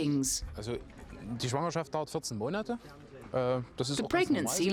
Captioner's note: speaking foreign language